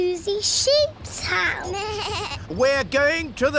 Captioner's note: suzy bleats